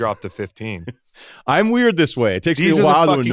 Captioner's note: laughs